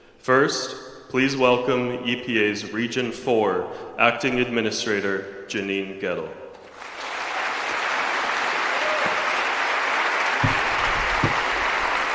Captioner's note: applause